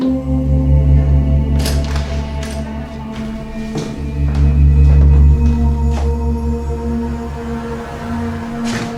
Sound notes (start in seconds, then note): 1.4 door opens; 4.3 footsteps thudding